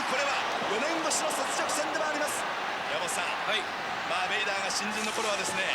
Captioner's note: announcer speaking in Japanese